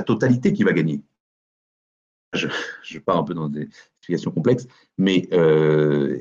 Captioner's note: soft laugh